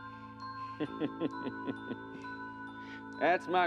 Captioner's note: laughs